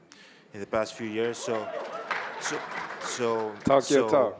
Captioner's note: audience cheering